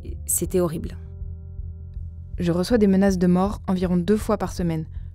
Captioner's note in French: voix féminine